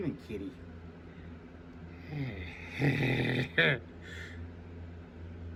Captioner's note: laughs and giggles